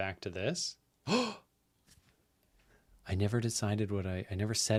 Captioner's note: gasps